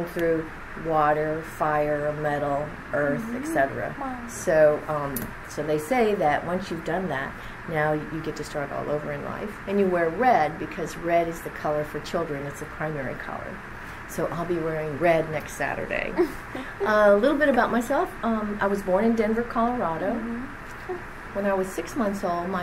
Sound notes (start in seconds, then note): 16.2 laughs